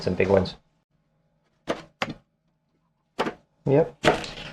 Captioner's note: knife cutting